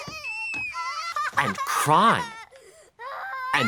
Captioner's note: sobbing